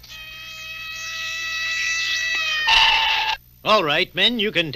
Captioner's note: sirens Wail